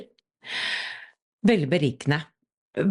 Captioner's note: takes a breath